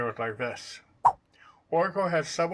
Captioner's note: swipe sound